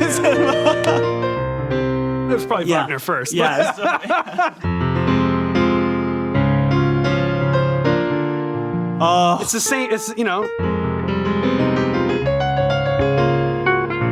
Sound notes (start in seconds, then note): 0.0 laughs loudly; 3.3 men laugh loudly; 5.1 mellow piano music; 9.0 man exclaims loudly; 10.9 mellow piano music